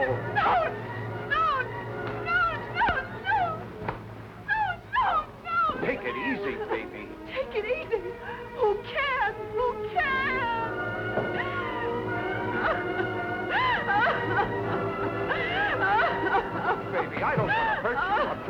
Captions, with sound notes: No! No, no, no! No, no, no! Take it easy, baby. Take it easy. Who cares? Who cares? [sobbing] Look, baby, I don't want to hurt you. I'm trying to help you.